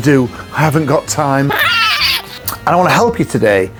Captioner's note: screeching